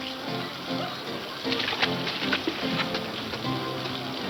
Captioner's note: lively music; people chattering